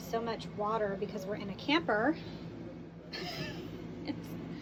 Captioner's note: laughs